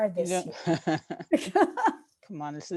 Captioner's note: laughing